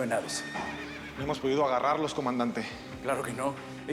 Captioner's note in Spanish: relinchos